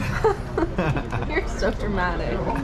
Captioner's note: laughter